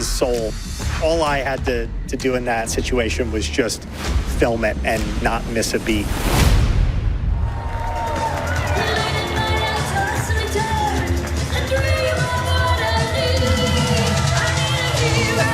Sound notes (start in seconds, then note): 7.2 audience cheering